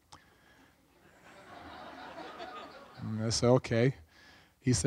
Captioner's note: audience laughs